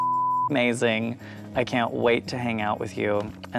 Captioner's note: beep